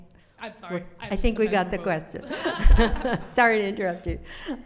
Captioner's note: laughs